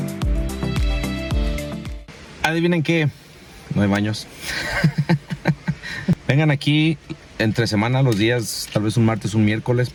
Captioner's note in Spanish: risas